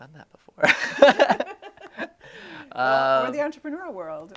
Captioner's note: laughing